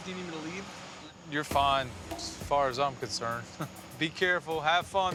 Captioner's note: chuckles